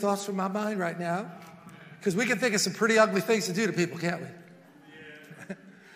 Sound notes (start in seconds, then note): 4.9 congregation murmurs